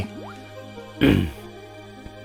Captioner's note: clears throat